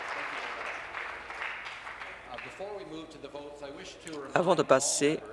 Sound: applause

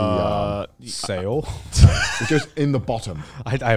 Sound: laughing

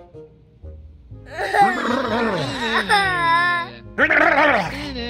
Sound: crying

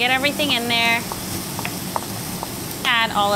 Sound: dish sizzling

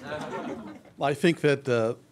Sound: laughs

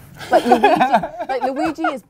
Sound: laughs

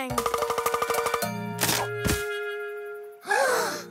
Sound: pecking; all gasp

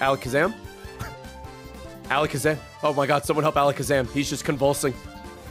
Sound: laughs

